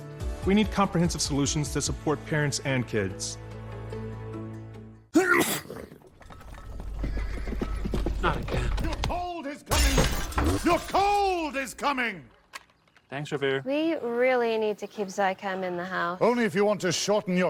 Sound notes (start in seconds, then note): 5.1 sneeze; 7.8 hooves approaching